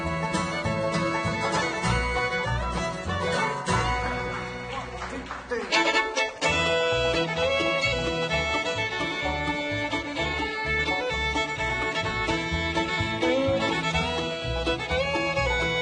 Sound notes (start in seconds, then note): 1.0 audience applause